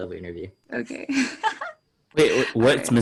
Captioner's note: laughs